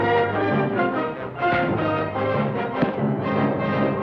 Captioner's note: thuds